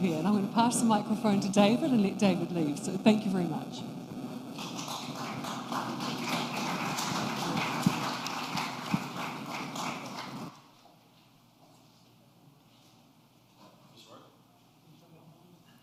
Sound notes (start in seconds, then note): 4.5 applause